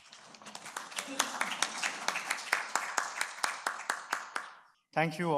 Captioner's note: attendees applauding